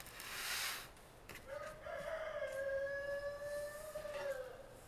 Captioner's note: rooster sounds